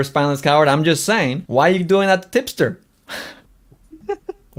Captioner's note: laughs